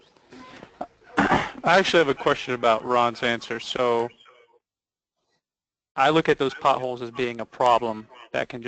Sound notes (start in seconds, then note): 1.0 cough